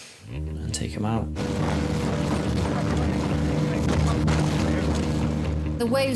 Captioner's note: lifeboat engine whirring